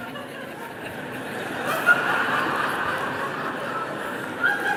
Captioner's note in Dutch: publiek lacht en klapt